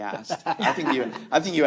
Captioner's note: laughs